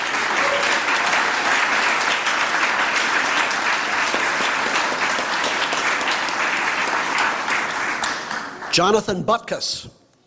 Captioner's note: applause